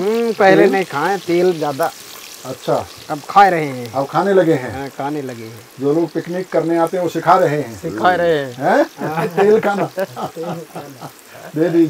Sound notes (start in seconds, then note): 8.6 laughs